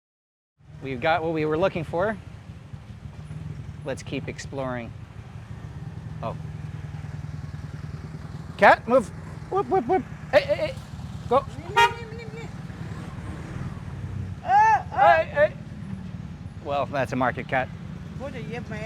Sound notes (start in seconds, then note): 9.4 making absurd noises to scare the cat; 13.6 still shouting